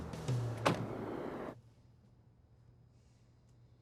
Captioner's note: car door slams